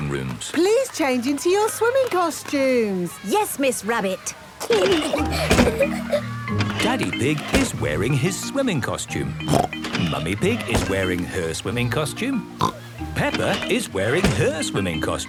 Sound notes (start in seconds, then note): 4.6 giggling; 9.4 snorts